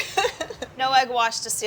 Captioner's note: giggles